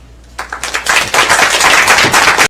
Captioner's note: applause